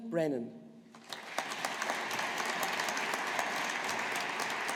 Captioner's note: audience applauding